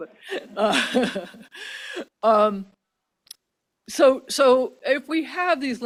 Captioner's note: laughs